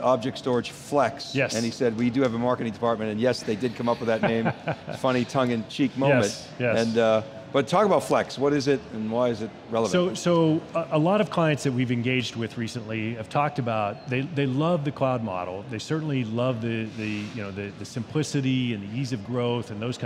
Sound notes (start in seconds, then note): 3.7 laughing